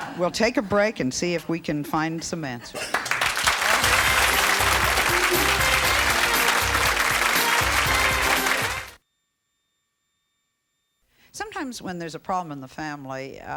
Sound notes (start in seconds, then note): 0.0 laughing; 2.8 audience applause; 3.6 jazzy music